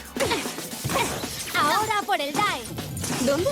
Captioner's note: banging